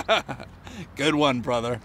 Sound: laughing

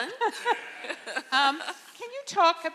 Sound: audience laughing

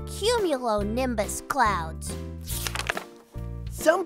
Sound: paper rustling from turning the page

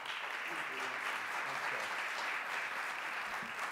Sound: applause

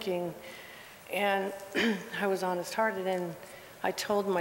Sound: cough

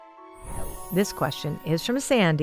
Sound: magical whoosh

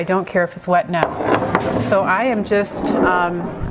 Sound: wood scraping canvas

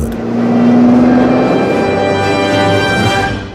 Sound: engine revs

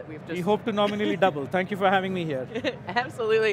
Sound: laughter

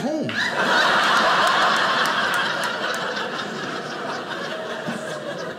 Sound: audience laughing

